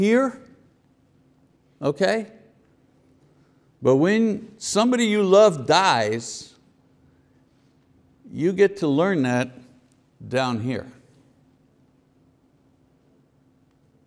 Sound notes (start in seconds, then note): none